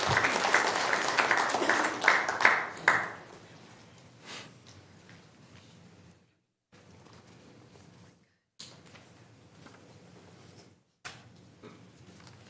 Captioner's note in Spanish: Aplausos